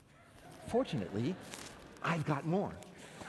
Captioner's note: laughter